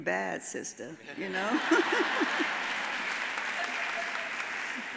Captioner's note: all laugh; audience applauds